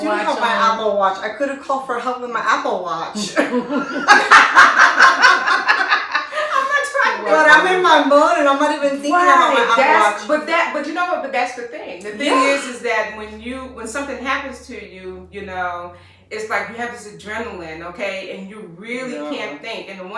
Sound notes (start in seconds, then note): 0.0 laughing; 3.1 laughter